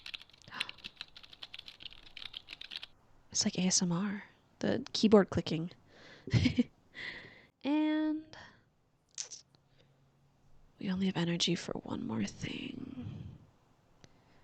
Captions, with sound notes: [gasp] It's like ASMR, the keyboard clicking. [laughs] And... [clicks tongue] we only have energy for one more thing...